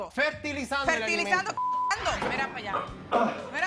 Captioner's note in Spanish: Bip